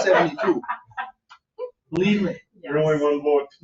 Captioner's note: laughing